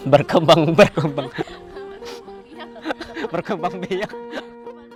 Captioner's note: laugh